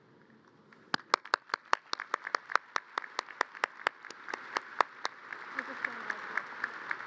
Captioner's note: audience applause